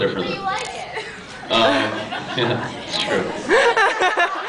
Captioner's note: laughs